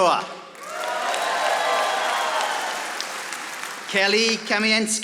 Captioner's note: audience applauding